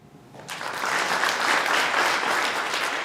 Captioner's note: applause